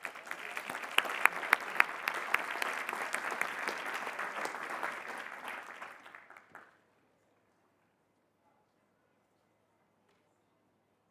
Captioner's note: applause